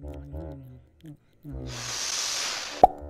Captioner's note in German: Verrückte tuba; Gebrabbel kauend; rauschende luft; Knackgeräusch